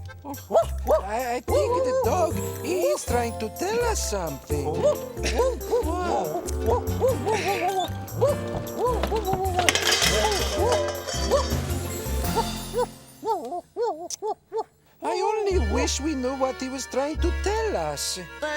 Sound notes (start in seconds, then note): 0.5 dog barking; 5.3 dog barking; 9.7 pie tins crashes; 13.2 dog barking